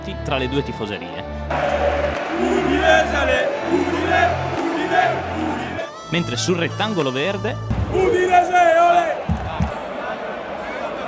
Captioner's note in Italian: Applauso